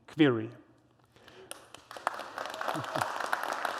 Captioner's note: applause